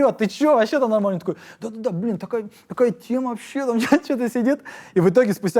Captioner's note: chuckles